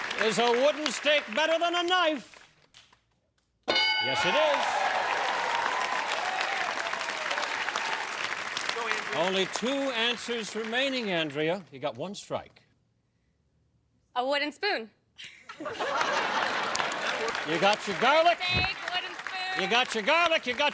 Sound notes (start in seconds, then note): 15.7 applause